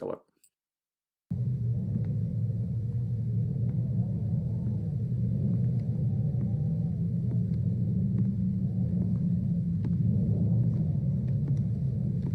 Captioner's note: wind Blowing